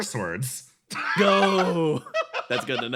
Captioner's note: laugh